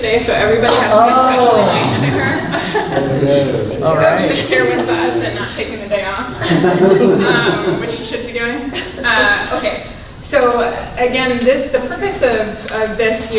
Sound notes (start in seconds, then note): 6.3 laughs